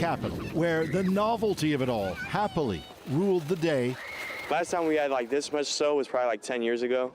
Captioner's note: cheering